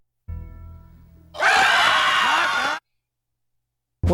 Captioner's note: all screaming